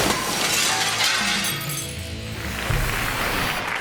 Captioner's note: glass shattering; audience applauding